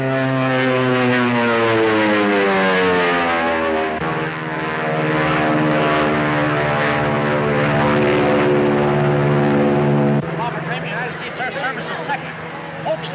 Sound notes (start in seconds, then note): 0.2 airplane buzzing